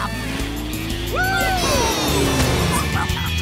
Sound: cheering

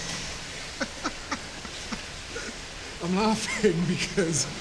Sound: laughing

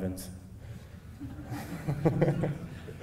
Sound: laughing

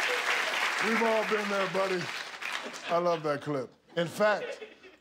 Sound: applause

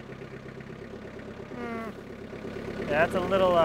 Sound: skid steer engine humming

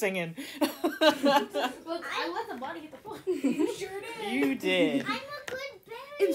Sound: laughter

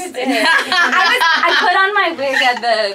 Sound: laugh

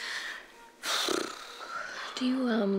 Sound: flutters lips

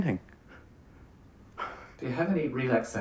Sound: chuckling

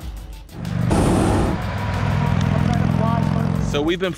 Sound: roar of truck engine

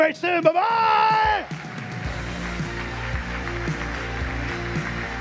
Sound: audience applauds; rock music

